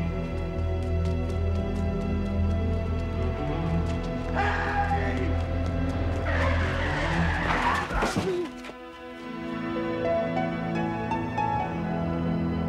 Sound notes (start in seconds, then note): 6.0 tires screech; 9.6 peaceful music